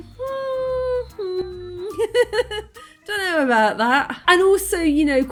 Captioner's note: laughing